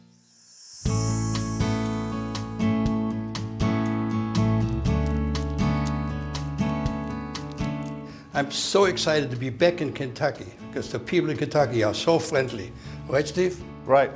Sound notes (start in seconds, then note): 0.2 relaxing guitar music; 5.0 fire crackling